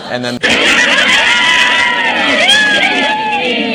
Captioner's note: loud Laughter